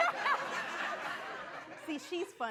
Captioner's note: laughing